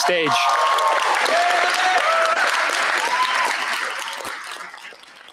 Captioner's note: cheers, applause